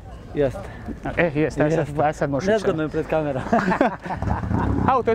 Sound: laugh

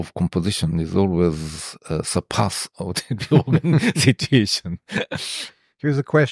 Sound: laughs

